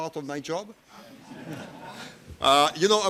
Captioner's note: audience laughs